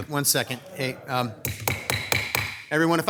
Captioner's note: gavel clanking